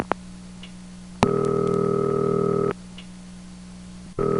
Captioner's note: dial tone; dial tone